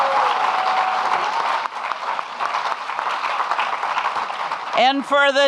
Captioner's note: audience clapping and cheering